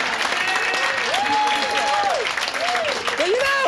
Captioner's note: audience laughing and clapping; audience hollering